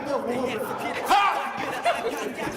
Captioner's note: exclaims